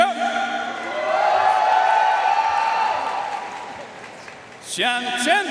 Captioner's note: audience cheering and applauding